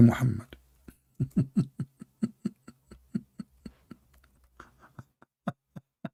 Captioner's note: Ketawa